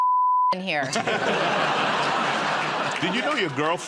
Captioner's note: laughter